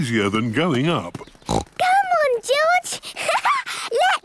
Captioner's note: snorts; laughs